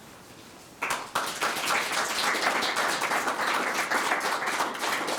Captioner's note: audience clapping